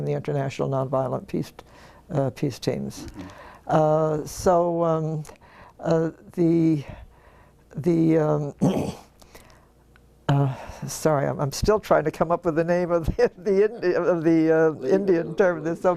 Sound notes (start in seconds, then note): 8.6 cough